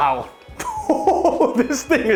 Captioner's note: laughs